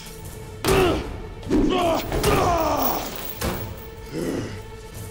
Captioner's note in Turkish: Dövüş sesleri; Müzik - Gerilim